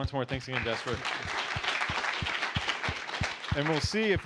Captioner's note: applause